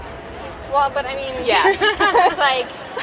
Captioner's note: both laughing